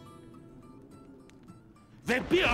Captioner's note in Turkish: Gök gürültüsü efekti